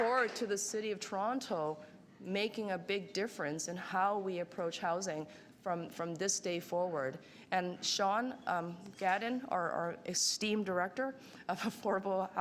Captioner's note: applause